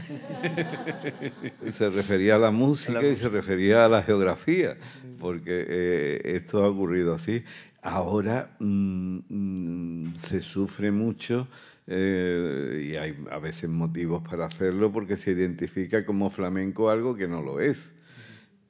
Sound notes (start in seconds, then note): 0.0 audience and panelists laugh; 3.0 continues in Spanish